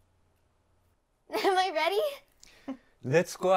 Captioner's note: Ana and Abuela chuckling